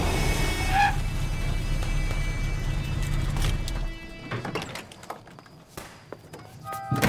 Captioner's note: dramatic music; guns firing; dramatic music